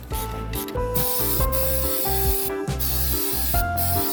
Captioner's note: air hissing